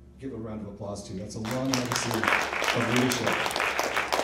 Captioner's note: people applauding